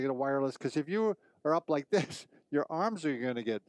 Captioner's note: laughing